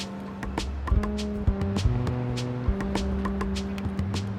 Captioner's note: street bustling